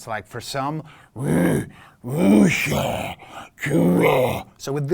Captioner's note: alien sounds